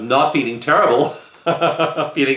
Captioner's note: chuckle